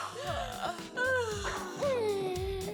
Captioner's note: yawn